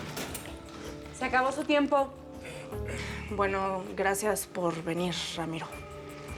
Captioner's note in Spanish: Sonido de puerta al abrir